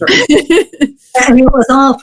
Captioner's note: laughs